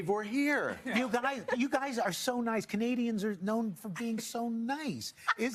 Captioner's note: laughter